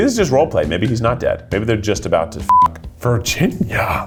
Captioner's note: beep